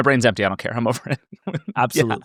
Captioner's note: laughs